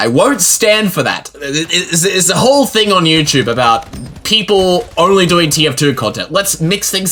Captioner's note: stuttering